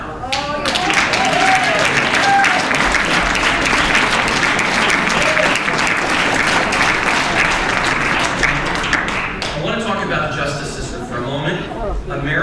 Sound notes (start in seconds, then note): 1.2 audience applauds and cheers